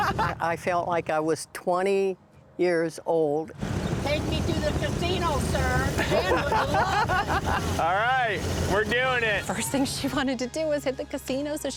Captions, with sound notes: I felt like I was 20 years old. Take me to the casino, sir. [laughter] All right. We're doing it. First thing she wanted to do was hit the casino so she